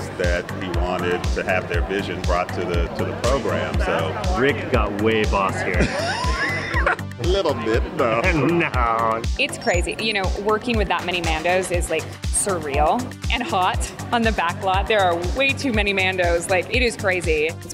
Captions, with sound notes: that he wanted to have their vision brought to the program, so... - Rick got way bossier. - [laughs] A little bit. Nah. - No. - It's crazy. You know, working with that many Mandos is, like, surreal and hot on the backlot. There are way too many Mandos. Like, it is crazy.